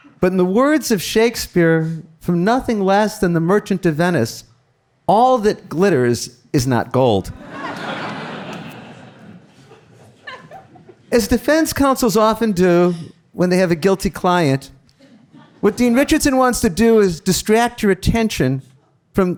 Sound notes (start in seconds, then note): 7.4 audience laughing; 10.1 giggles